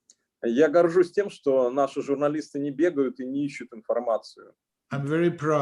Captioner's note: speaking Russian language